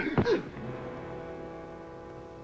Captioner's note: thud